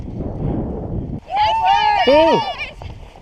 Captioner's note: runners cheering